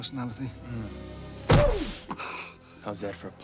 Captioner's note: thud